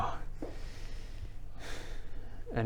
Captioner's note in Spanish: suspiro; respiración profunda